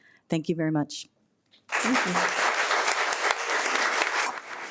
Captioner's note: audience applauding